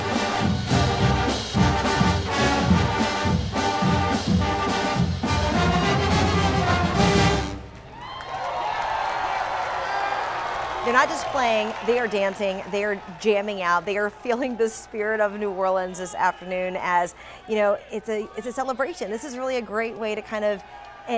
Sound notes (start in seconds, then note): 7.7 cheers and applause